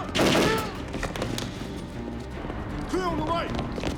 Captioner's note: gangsters yelling; gunfire clattering